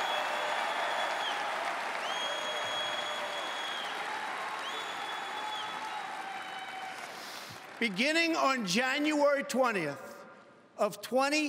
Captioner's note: cheering and Applause